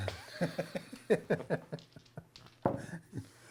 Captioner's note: chuckling